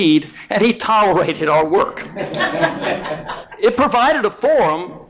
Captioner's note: audience laughing